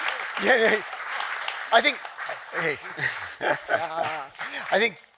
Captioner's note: chuckling